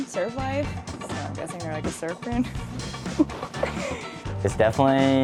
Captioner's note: chuckles